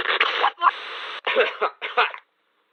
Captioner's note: fan coughing